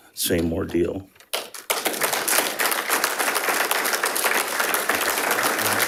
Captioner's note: audience applauding